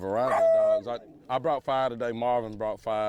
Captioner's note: dog howls